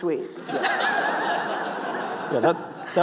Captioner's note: laughs